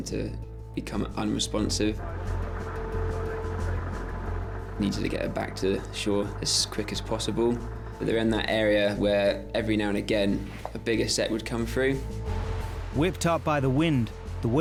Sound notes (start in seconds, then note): 2.0 boat droning; 2.0 intense music